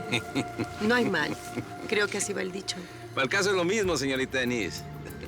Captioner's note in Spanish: Risas